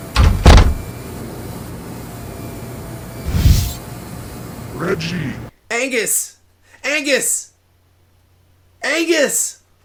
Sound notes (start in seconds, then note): 1.1 door closing; 3.2 whoosh; 4.8 distorted voice